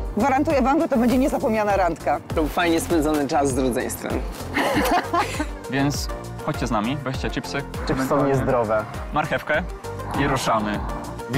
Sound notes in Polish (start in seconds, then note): 4.5 śmiech